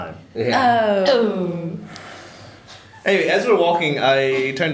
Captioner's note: sigh